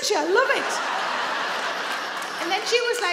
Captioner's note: audience laugh